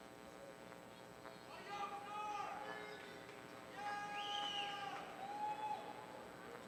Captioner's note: audience cheering